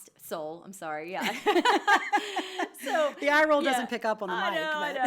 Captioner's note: laughs